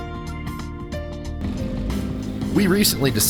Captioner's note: engine humming